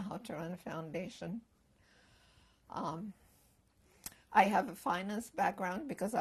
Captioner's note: pauses for 3 seconds